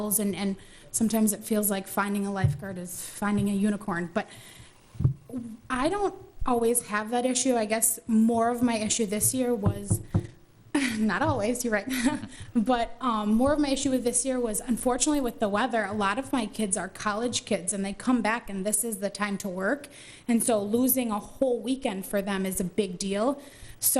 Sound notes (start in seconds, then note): 9.6 knocks on table